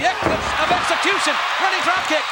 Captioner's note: audience cheers